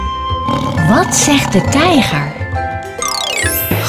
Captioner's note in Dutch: je hoort het dierengeluid van de tijger